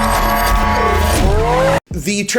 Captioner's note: vroom